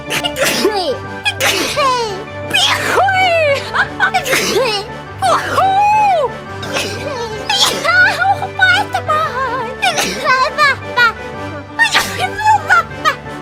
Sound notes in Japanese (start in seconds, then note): 0.0 くしゃみ